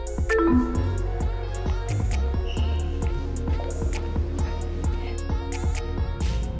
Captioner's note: upbeat music; electronics beep